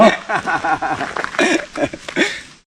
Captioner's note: laughs